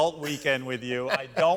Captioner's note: laughter